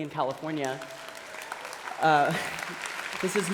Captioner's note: applause